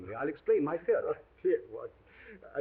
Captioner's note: chuckles